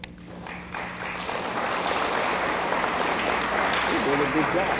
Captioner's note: audience applauds